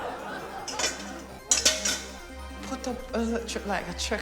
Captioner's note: pots clang